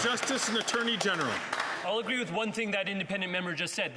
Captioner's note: some Applause